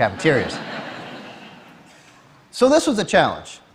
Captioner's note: Laughter; 笑聲